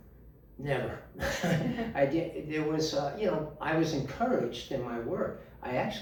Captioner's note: laughing